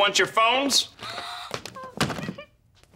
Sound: gasping

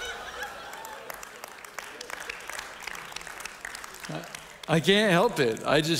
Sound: audience applauding

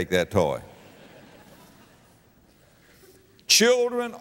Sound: audience laughter

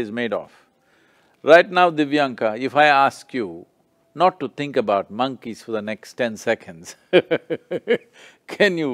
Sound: laughs

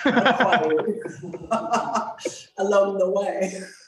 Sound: both laugh

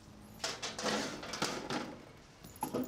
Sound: drawer opens

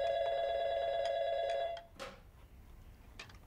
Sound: phone rings

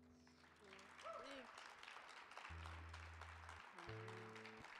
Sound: audience applauding

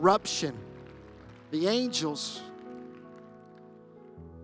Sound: applause

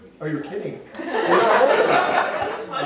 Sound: laughter

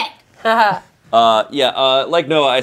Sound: chuckling

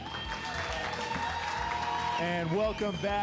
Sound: applause and cheers

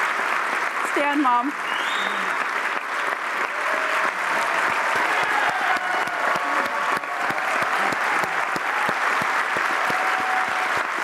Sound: applause

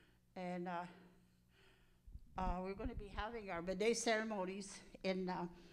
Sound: speaking in Cree

